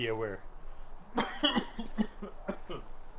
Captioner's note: heavy coughing